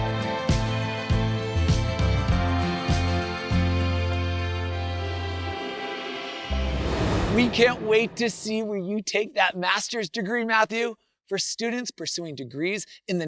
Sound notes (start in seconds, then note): 0.0 grand instrumental music; 6.1 transition whooshes